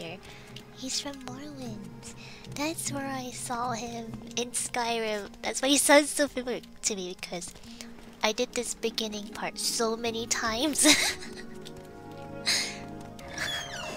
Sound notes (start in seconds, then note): 10.7 laughs